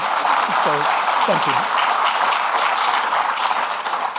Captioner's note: audience clapping